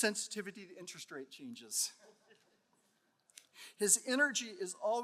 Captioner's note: audience chuckling